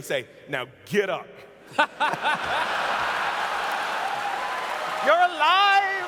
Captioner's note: laughter